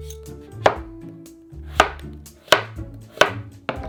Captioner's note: knife cutting